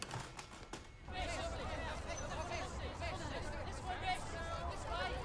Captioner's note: reporters chattering